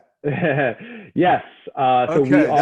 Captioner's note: laughs